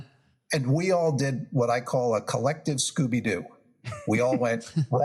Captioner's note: laugh